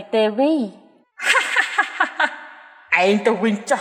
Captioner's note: laughing